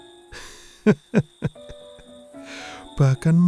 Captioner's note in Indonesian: tertawa